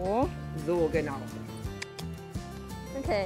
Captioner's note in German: Schnalzen